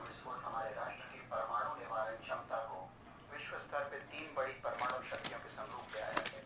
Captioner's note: radio